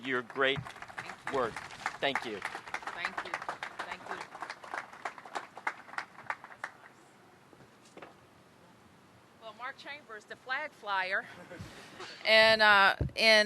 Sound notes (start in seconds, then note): 3.5 applause